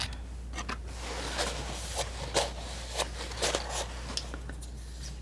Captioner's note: scratching